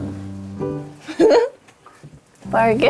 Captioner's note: chuckles